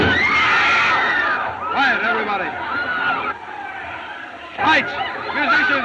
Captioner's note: gunshot; crowd Screams